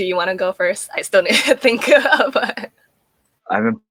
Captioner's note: laughing